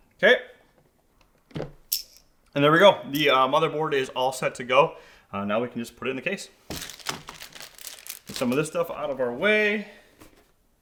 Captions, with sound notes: Okay, and there we go. The motherboard is all set to go. Now we can just put it in the case. (packaging crinkling) Get some of this stuff out of our way.